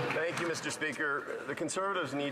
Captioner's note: some Applause